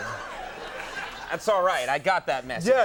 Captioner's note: Conan and crowd laughing